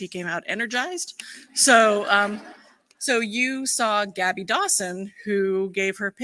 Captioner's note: laughter